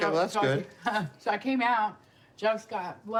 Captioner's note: laughs